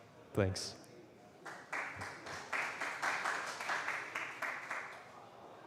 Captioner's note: applause